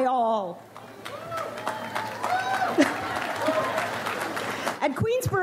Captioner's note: audience applauds